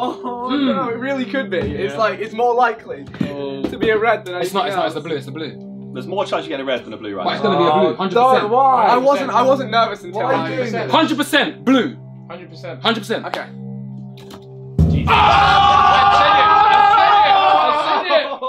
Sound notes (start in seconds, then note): 13.9 tense music; 15.0 all screaming